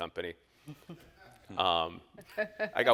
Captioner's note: all laughs